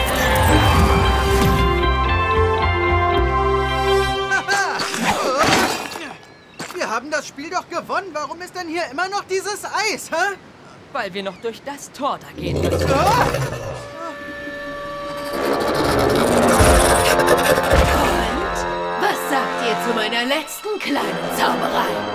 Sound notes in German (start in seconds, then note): 4.3 Er lacht und schreit auf; 12.0 Schreckenslaut